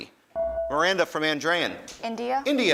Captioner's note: beeping